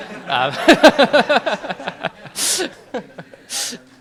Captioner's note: audience laughing; laughs